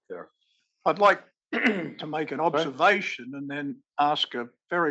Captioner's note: cough